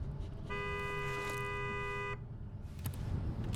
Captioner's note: car honking